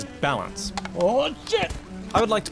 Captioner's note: falling off chair noises